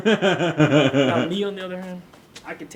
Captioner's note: Thomas laughs